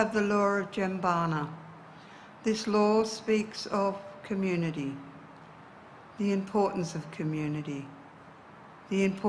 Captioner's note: speaks in indigenous dialect